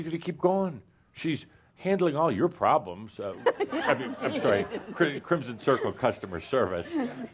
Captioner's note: she chuckles